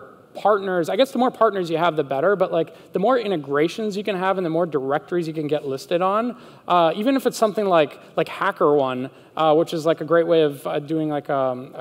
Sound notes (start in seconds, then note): none